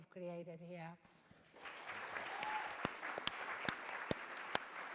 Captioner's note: audience clapping